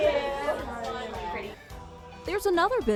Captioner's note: client chatters